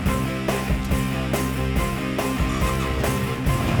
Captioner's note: motorcycle sounds; upbeat music